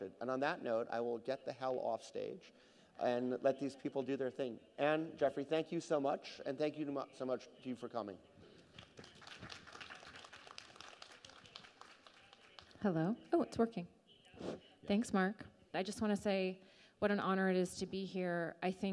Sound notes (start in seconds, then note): 8.5 people applauding